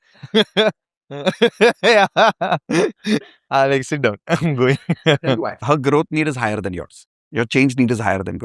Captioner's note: laughter